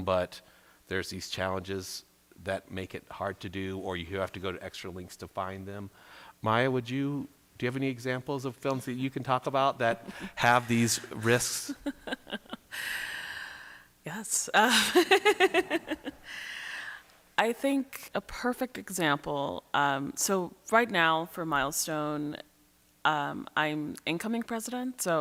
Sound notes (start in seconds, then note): 11.9 chuckles; 14.6 laughs